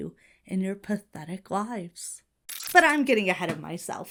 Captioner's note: audio glitches